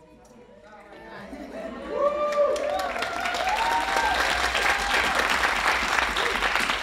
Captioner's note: giggling; audience cheering; audience applauding